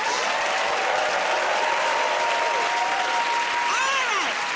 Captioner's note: cheering and applause